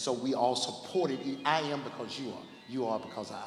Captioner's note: ringing